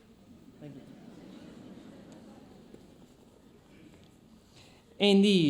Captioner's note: audience laughs